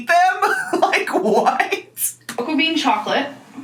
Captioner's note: laughing